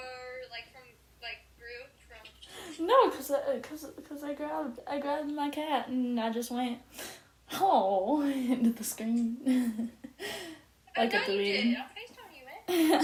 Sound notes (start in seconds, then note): 9.7 laughs